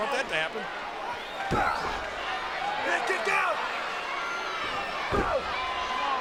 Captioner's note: blow thudding